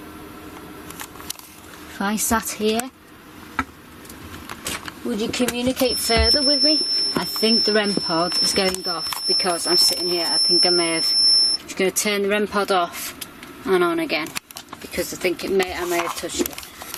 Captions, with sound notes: If I sat here, would you communicate further with me? (REM Pod beeping) I think the REM Pod is going off because I'm sitting here. I think I may have, gonna turn the REM Pod off and on again, 'cause I think I may have touched it.